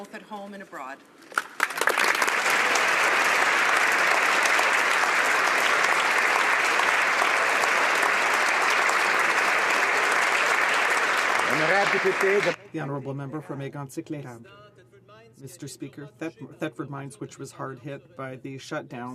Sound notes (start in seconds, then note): 5.4 applause